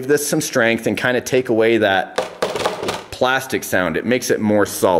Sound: taps

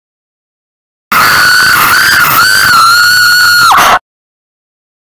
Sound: sound of scream

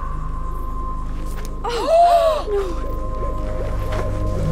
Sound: gasp

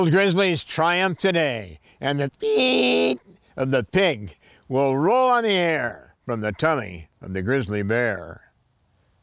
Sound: squeal

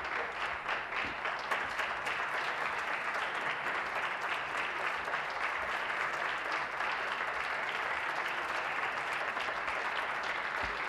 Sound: applause

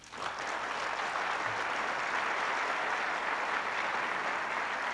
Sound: applause

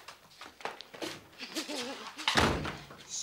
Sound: Sandra laughs

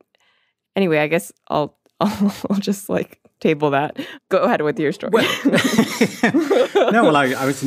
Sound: both laugh

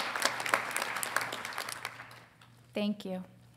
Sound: audience applauding

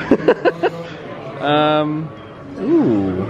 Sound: laughs

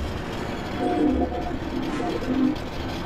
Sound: train whistle

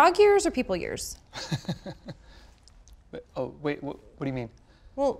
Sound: laugh

